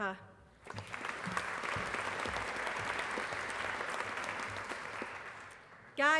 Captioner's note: applause